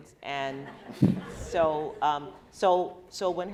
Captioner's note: laughing